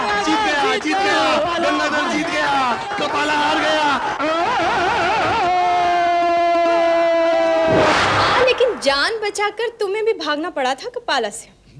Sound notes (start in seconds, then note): 4.1 screaming